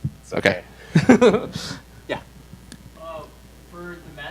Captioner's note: laughs